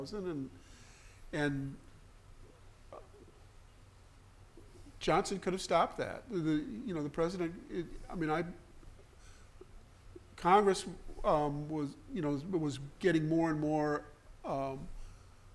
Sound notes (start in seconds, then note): none